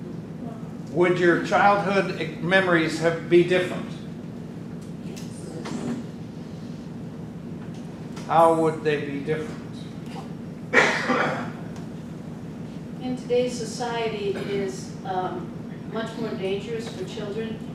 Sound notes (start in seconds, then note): 5.1 group murmurs in agreement